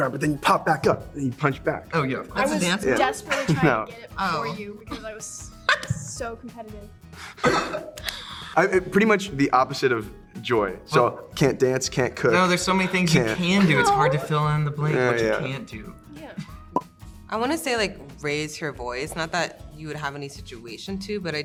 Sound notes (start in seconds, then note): 5.6 Joy laughs; 5.6 multiple laughing; 13.4 Percy laughs